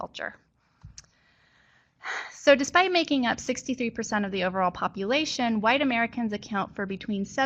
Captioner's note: sigh